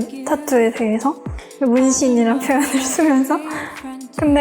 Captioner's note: laugh